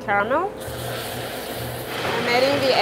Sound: cream sizzles

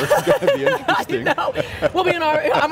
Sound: chuckling; laughing

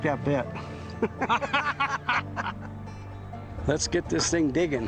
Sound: both laughing

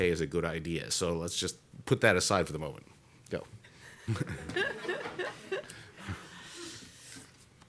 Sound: laughter

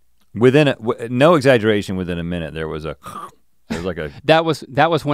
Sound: snorts

